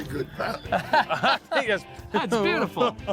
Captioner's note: laughing